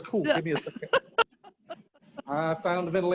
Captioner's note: laughing